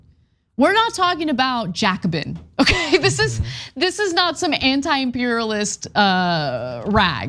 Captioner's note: laugh